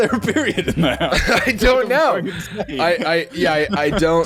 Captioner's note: laughing